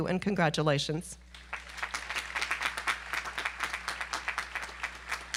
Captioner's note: audience applause